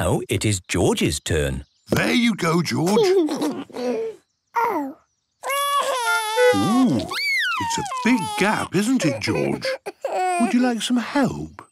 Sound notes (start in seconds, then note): 5.4 cries